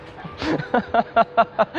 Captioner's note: laughing